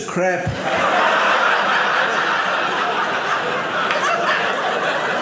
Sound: audience laughing

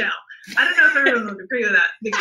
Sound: laughs

